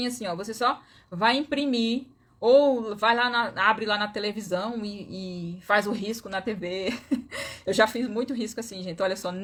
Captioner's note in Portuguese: risadas